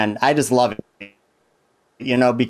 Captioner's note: audio distorts